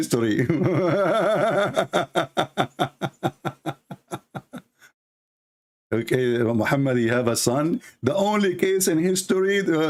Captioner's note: Ketawa